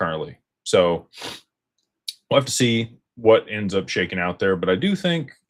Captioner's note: snorts